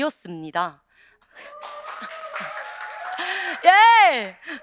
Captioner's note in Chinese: 掌声